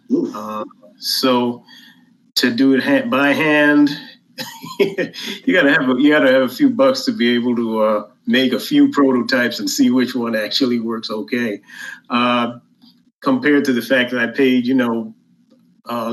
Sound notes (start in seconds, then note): 4.4 laughs